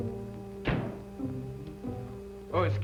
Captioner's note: door slams